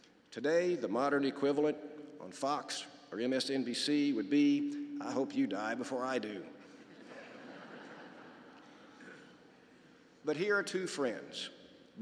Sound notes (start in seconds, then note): 6.6 laughter